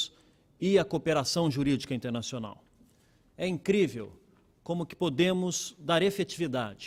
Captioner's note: speaking Portugese